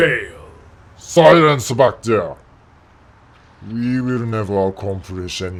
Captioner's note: reversing garbage truck beeping